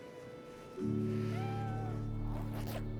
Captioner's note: cat crying